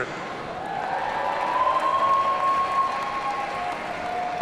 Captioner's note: audience cheering